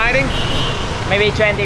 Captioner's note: honking